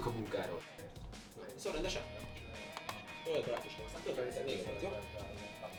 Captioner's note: distinctive conversation